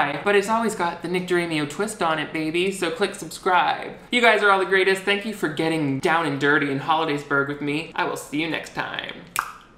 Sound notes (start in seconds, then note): 9.3 clicks tongue